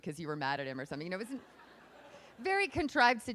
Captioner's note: laughing